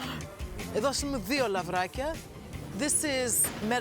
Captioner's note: laughs; speaking in greek